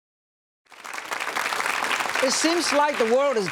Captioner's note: audience clapping